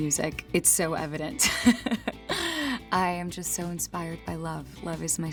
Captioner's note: laughs